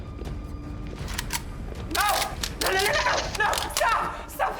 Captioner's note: tense music; rifles all cocking